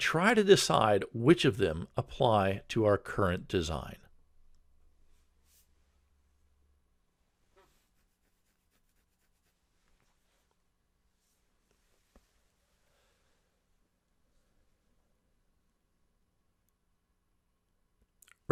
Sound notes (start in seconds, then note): 4.5 pause